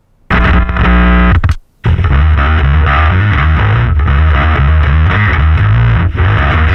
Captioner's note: ήχος ενισχυτή